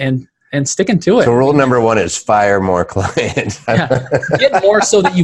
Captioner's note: laughing